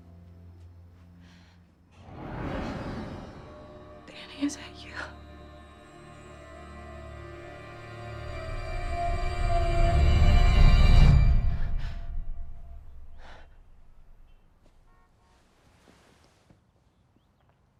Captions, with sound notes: (dark sinister music) Danny, is that you? (foreboding eerie music) (Bryn huffing)